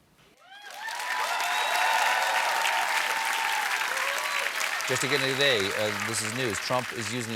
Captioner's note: cheers and applause